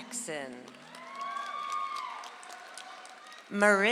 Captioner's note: audience applauds